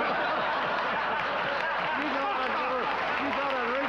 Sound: audience laughing

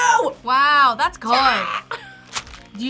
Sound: React screams

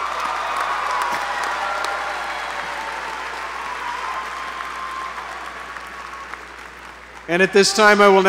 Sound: applause

